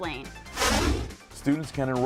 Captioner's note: deep swooshing